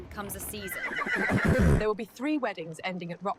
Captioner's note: horse neighs